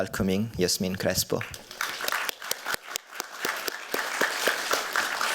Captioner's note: applause